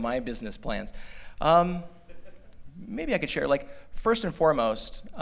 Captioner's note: laughter